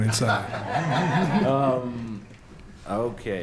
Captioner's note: laughter